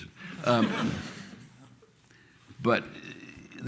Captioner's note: laughter